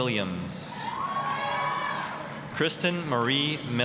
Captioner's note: applause, cheering